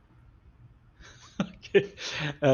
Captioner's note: laugh